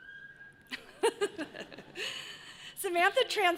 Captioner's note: laughs